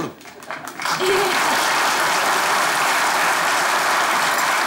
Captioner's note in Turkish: Alkış sesleri